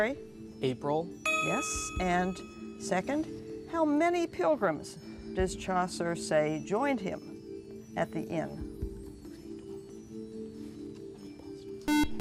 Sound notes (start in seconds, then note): 8.3 whispering; 11.8 buzzer